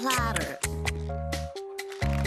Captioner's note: applause